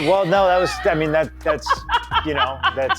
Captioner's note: laugh